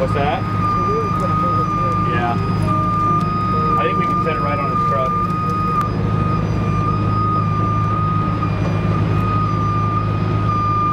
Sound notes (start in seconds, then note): 1.4 engine rumbles; 2.2 tow truck beeps; 6.9 engine rumbles